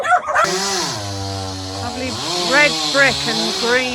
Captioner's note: dogs barking; chainsaw